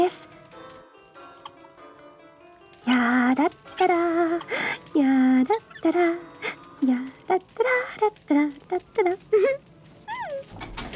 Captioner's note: the gurney wheels creak, she hums “ ” and giggles